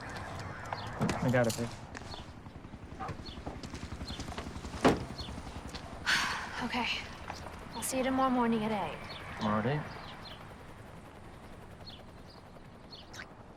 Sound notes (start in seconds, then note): 1.8 helicopter flying; 6.0 sighs